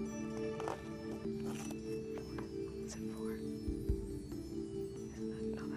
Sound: whispering

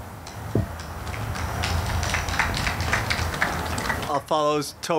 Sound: audience clapping

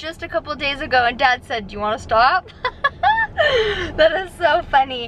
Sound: laughs

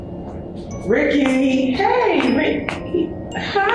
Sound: footsteps

